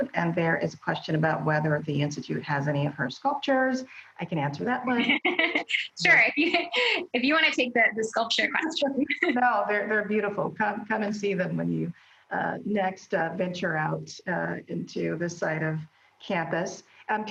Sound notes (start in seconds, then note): 5.0 laughs